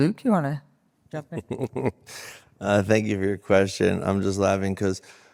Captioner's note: laughs